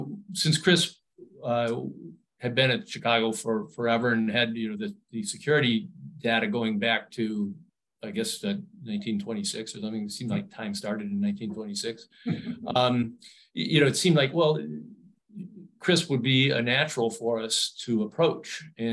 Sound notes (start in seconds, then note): 12.3 chuckles